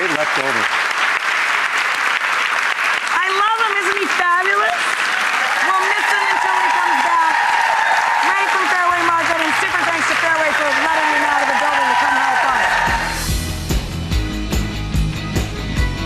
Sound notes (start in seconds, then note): 5.2 audience cheers; 13.4 upbeat music